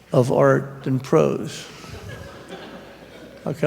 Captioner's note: laughter